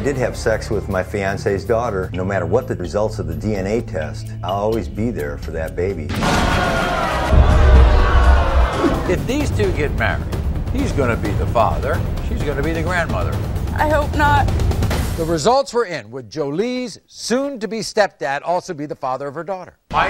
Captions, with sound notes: - I did have sex with my fiance's daughter. No matter what the results of the DNA test, I'll always be there for that baby. (audience booing) - If these two get married he's gonna be the father, she's gonna be the grandmother. - I hope not. - The results were in. Would Jolie's soon to be stepdad also be the father of her daughter?